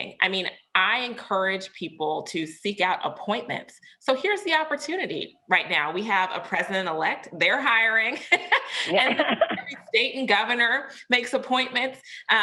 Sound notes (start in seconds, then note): 8.4 laughs